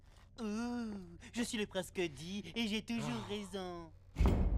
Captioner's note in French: voix moqueuse